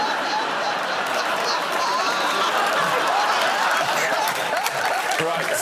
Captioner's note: laughter